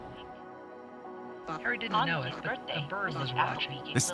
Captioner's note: beeping and stories overlap